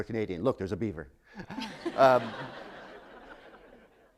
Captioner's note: laughter